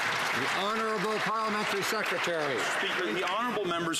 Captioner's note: some Applause